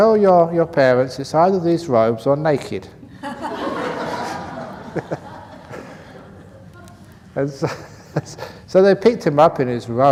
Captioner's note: laughter